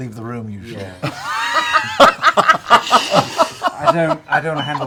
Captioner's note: laughter